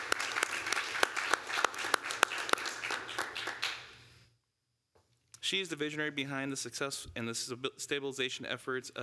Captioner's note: applause